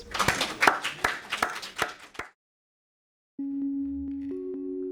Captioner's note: audience applauding; bright music